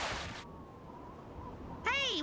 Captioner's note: water splashing; wind whistling